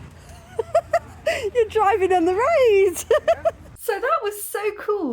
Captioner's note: laughing